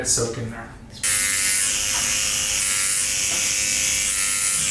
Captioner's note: pen buzzes